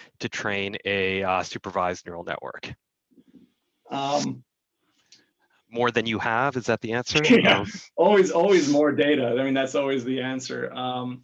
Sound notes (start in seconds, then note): 7.2 laughs